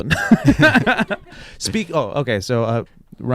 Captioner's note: laughs